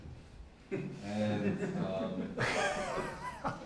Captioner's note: laughing